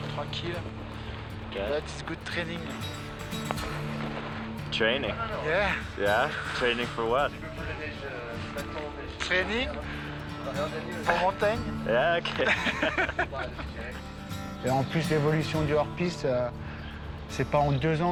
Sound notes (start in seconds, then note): 12.2 laughter